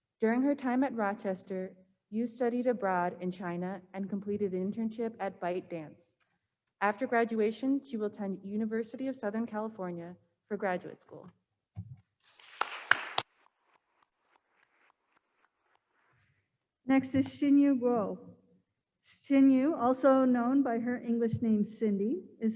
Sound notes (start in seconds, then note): 12.3 attendees applauding